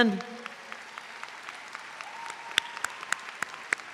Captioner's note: audience applauds